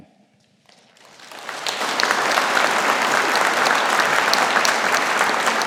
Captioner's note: audience applauding